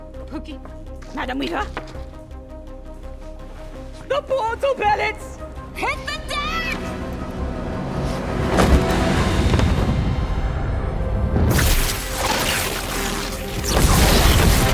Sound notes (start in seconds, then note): 7.0 dramatic music; 11.5 crackling